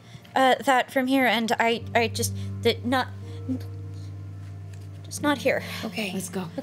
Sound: stutters to find the words

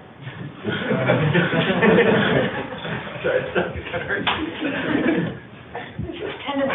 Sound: laughter

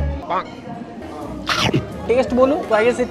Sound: munching

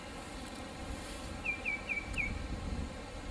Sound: birds chirping

